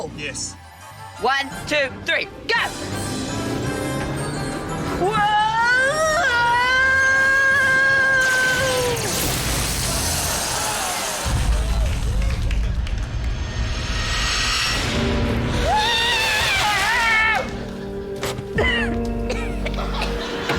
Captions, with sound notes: - Yes. - One, two, three, go! (ENGINE REVS) Whoa! (YELLS) (ELECTRICITY FIZZES, ROARS) (DULL BOOM, WHOOSH!) (SCREAMS) (COUGHS)